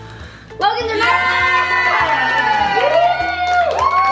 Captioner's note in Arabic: هتاف